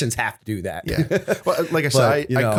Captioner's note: laughter